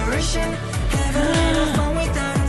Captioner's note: gasp